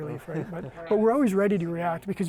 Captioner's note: chuckles